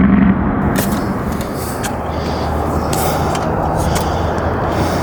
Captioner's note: sand rustling